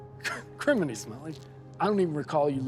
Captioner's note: laughs